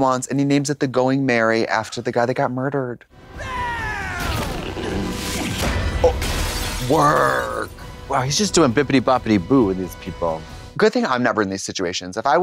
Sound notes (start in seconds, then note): 3.3 Luffy stretches and screams; 4.9 glass explodes